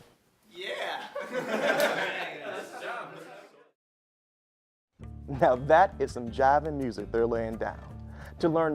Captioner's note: laughter